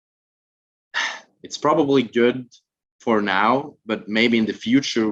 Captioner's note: sighs